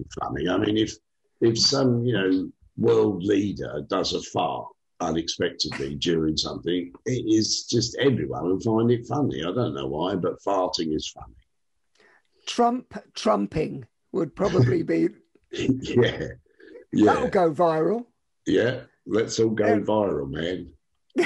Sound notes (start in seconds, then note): 15.5 chuckles